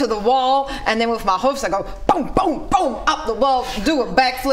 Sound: boom boom boom

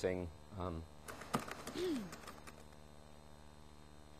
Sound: keyboard typing

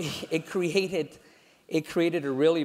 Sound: laugh

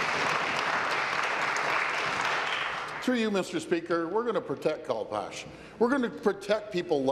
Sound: applause

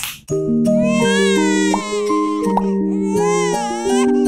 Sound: baby crying

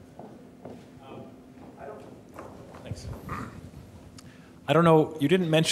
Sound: man speaking off mic

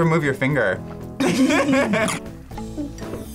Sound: both laugh; laughs

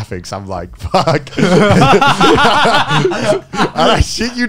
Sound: everyone laughs

